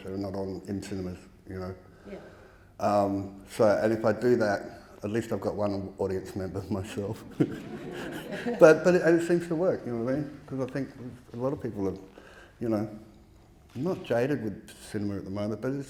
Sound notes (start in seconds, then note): 6.9 audience laughing